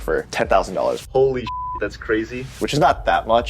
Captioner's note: beep